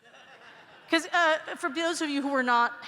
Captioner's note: laughter